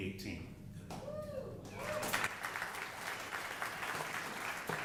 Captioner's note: audience applauding